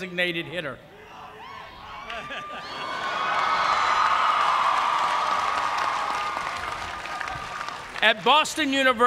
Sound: cheers and applause

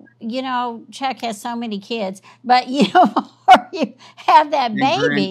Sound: laughs

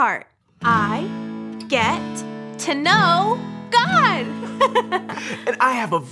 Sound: giggles

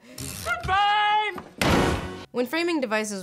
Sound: slam

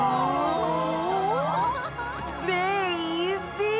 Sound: all gasp

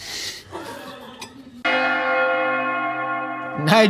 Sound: laughing; bells Ringing

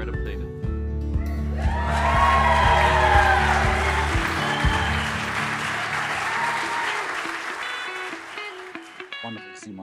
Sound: audience cheering and applauding

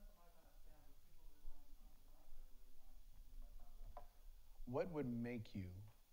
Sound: faintly speaking

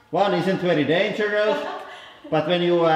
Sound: laughs

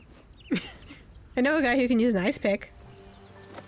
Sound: laughs

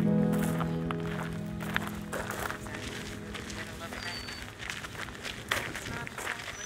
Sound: gravel crunching; birds chirping

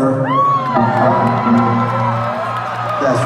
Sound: cheering

